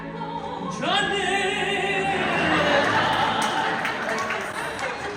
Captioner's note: laughter